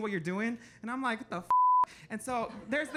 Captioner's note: beep